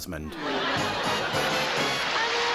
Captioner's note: laughter to applause to music